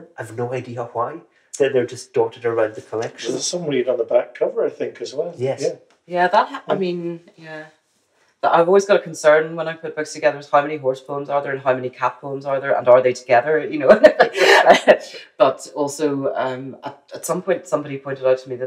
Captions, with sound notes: I've no idea why. They're just dotted around the collection. There's a submarine on the back cover I think as well. — Yes. — Yeah. I mean... Yeah. But I've always got a concern when I put books together — how many horse poems are there and how many cat poems are there? And are they together, you know? (LAUGHS) But also, at some point somebody pointed out to me